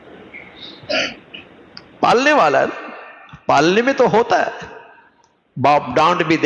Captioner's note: clears throat